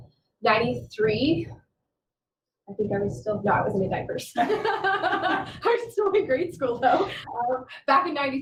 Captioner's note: laughter